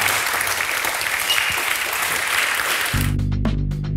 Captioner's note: the audience cheers